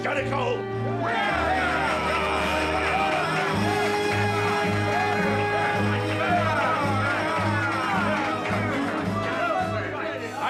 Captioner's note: cheers